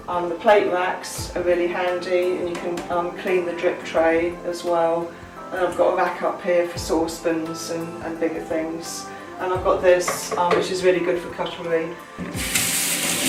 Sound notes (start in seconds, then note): 10.0 tap running